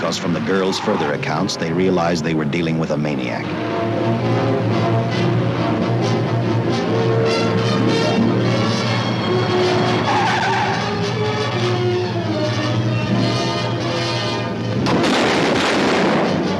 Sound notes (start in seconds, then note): 4.2 suspenseful music; 10.0 tires squeal; 11.0 suspenseful music; 14.8 gunshots